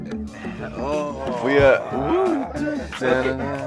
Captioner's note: humming